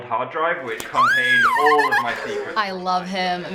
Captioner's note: squeals